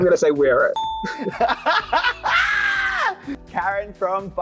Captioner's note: Kita laughs